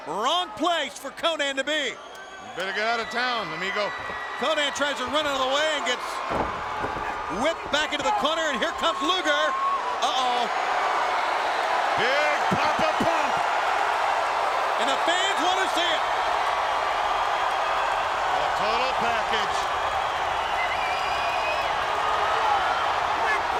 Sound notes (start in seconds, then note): 6.3 floor pounding; 10.2 clamorous cheering; 20.2 fan whistling